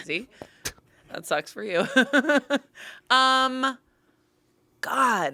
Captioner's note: laughs